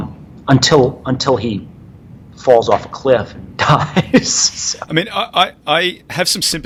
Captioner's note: laughing